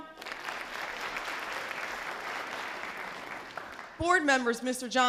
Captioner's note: audience applause